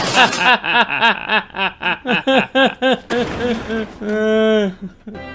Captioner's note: sad crazy guy noises